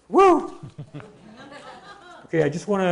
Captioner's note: laughing